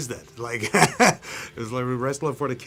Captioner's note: laughs